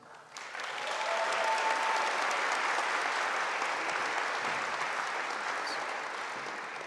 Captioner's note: audience applauding; audience cheering